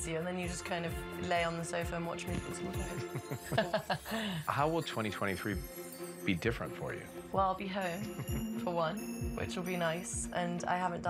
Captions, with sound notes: Yeah, it hits you, and then you just kind of lay on the sofa and watch movies all night. [laughter] How will 2023 be different for you? Well, I'll be home, for one, which will be nice,